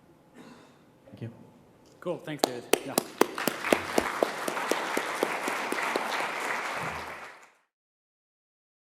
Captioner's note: applause